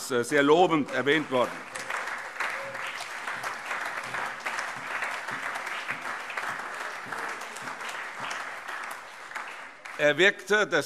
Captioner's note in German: Allgemeiner Beifall